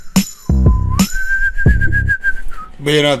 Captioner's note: whistling